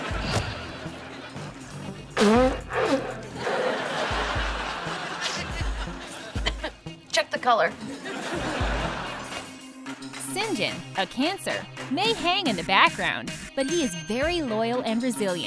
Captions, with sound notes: [blowing her nose] Check the color. Sinjin, a Cancer, may hang in the background, but he is very loyal and resilient,